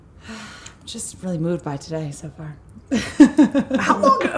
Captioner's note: sigh